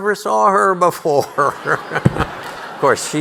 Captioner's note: audience laughing